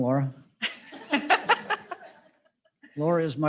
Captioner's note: all laughing